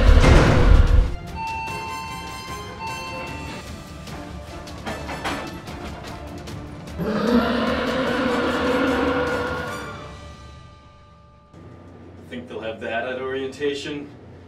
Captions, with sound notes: [METALLIC CRASH] [ELEVATOR DING] [ROAR] [MUSIC STOPS] Think they'll have that at Orientation?